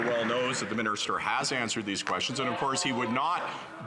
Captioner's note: some Applause